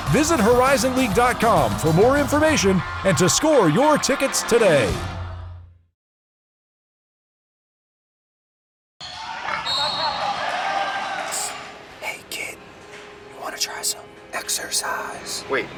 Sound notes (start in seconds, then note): 9.6 whistle blows